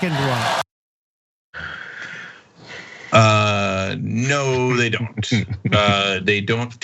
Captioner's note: applause